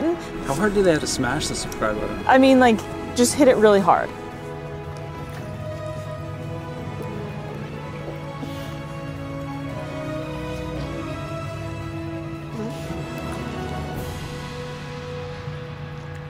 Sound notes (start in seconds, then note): 4.5 background music; 4.5 gentle otter squeaks